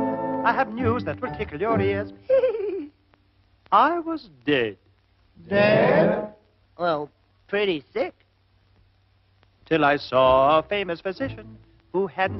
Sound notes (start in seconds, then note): 2.2 giggling; 5.5 crowd